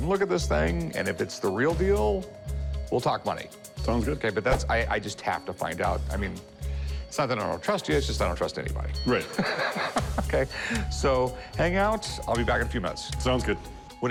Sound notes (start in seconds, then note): 9.2 laughs